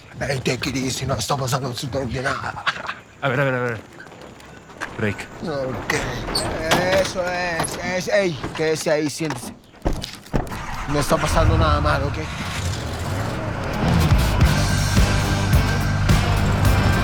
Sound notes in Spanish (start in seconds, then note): 10.4 Ruido al encender el camión; 16.8 Ruido del vehículo